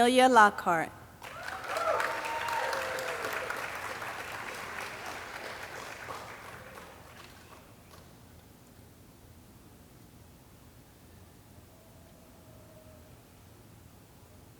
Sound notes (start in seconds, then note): 1.2 audience cheering and clapping